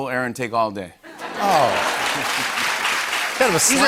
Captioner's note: laughter and applause